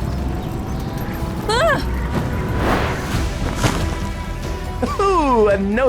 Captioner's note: JADE screams, then groans